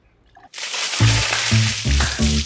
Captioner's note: water splash